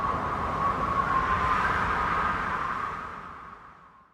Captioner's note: wind blowing